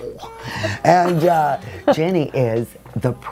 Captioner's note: laughing